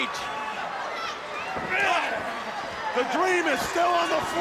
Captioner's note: crowd chatter